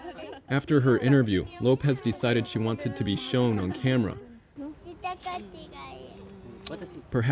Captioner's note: japanese conversation